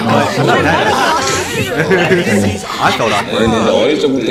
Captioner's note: haha